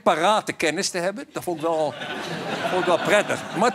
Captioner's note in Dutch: gelach